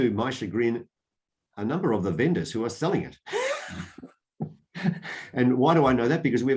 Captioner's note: laughs